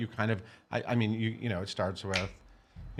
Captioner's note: snapping